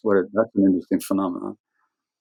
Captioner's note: audio cutting out